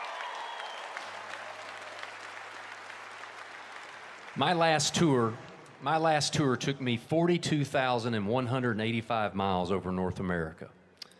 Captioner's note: cheers and applause